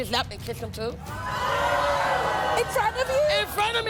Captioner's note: audience groaning and shouting